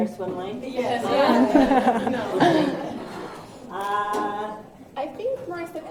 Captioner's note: laughter